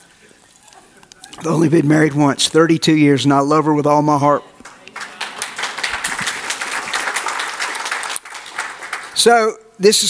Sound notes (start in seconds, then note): 4.6 audience applauds